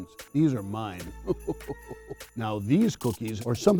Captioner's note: chuckles